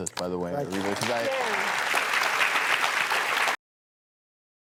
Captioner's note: applause